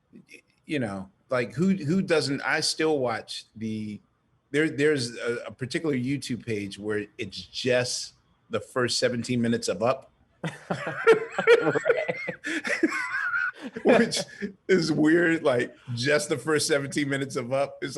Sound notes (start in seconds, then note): 10.4 laughing